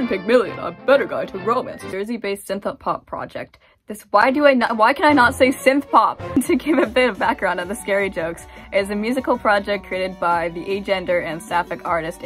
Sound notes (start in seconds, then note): 0.1 fancy voice; 6.3 laughing